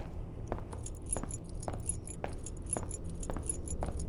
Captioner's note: keys jingling